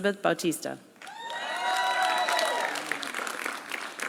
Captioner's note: applause